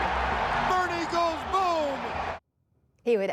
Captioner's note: cheering